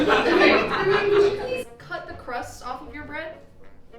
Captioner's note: audience laughing